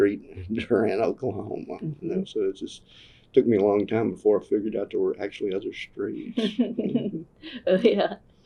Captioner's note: laughter